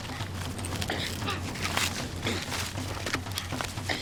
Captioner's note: wood tearing